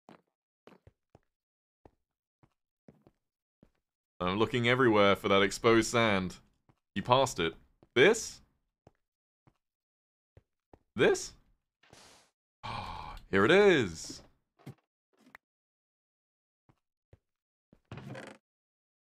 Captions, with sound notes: I'm looking everywhere for that exposed sand. "You passed it"? This? This? [gasps] Here it is!